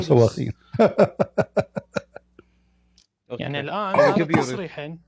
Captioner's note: Ketawa